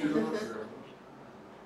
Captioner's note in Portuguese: risos